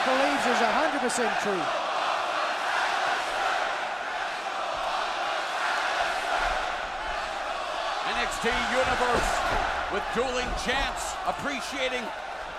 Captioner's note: crowd cheering